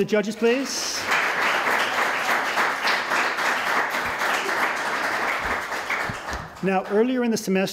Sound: applause

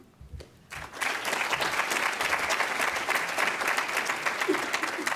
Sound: applause

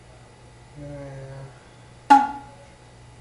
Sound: an erotic sound

